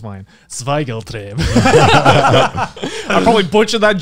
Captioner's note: speaks foreign language